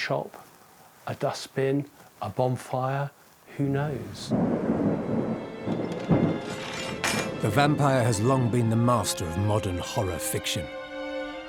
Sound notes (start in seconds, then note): 4.0 thunder rumbling